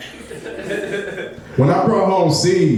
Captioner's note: laughing